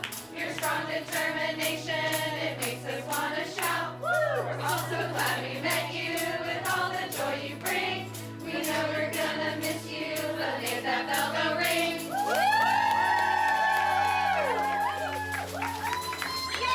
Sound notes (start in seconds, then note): 12.1 cheering